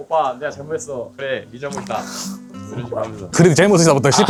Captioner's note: laughs